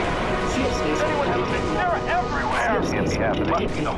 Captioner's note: explosions